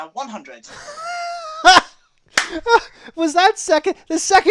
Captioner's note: laughs